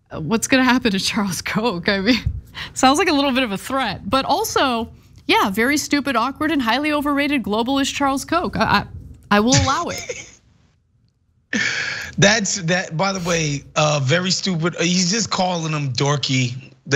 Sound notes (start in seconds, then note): 11.6 laugh